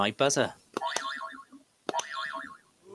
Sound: boing

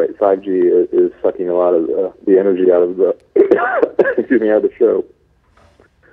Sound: coughing

